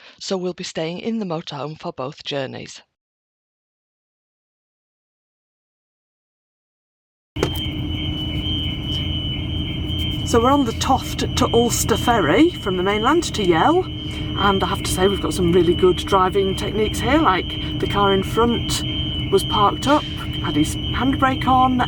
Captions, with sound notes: so we'll be staying in the motorhome for both journeys. [Car alarm] So we're on the Toft to Ulsta ferry from the mainland to Yell, and I have to say, we've got some really good driving techniques here. Like the car in front was parked up, had his handbrake on,